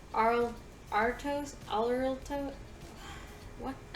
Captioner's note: sigh